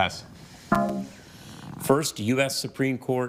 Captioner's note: bell dongs